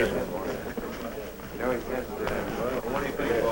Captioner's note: chatter